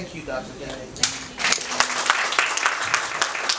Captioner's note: applause